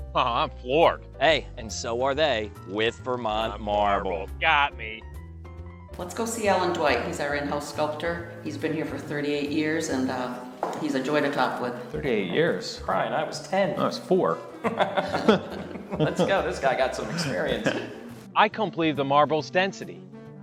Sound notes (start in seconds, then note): 14.4 laughs